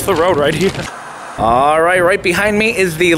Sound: static hissing

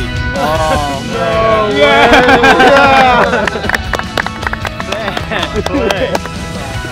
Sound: clapping

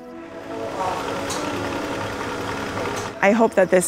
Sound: machine rattling

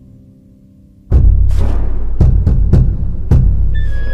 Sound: echoing knocking; ominous music

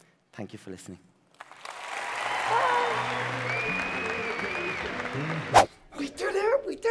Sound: audience applauding and cheering

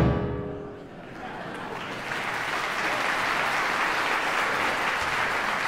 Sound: audience applause

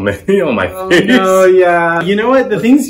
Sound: laughs

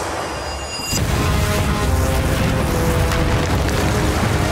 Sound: flames roar; crumbling

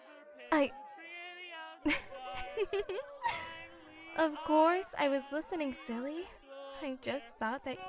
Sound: flirtatious laugh

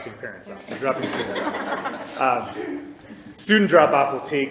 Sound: crowd laughs

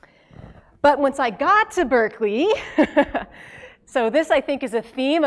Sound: laugh

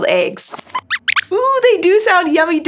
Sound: squeaks squeaks

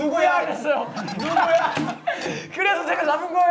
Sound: laughing

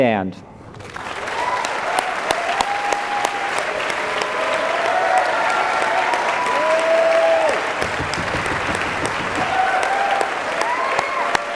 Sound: applause

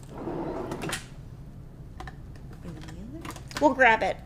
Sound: drawer scraping

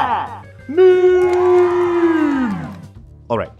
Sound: cheering

